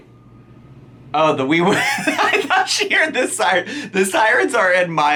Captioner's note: laughs